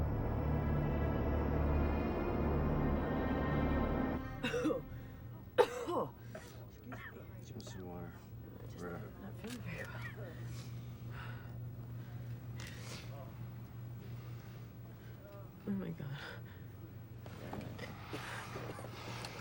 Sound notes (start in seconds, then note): 5.5 Roberta coughs